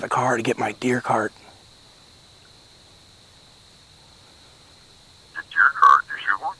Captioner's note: silence